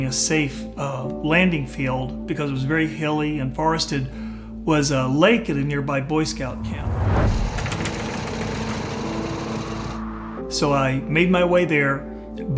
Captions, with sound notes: a safe landing field, because it was very hilly and forested, was a lake at a nearby Boy Scout camp. (plane engine sputters) So, I made my way there,